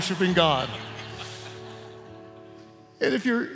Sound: laughter

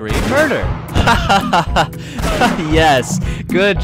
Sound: laughs

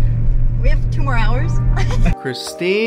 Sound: laughs

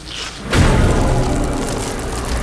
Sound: loud thud

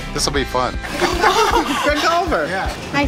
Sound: laughter

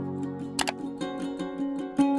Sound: mouse click

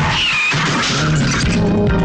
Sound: tires squealing

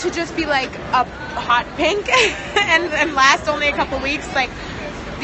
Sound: laughs

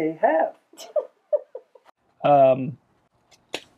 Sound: laughing

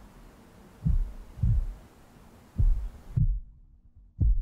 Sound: heartbeat pulsing

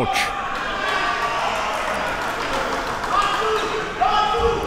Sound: applause

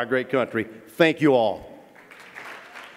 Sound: applause

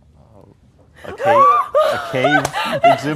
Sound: screeching

